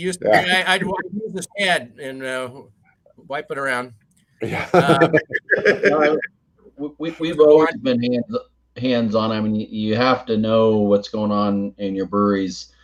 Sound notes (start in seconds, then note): 4.4 laugh